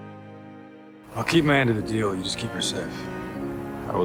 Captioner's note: voiceover